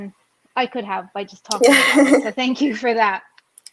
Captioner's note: laughs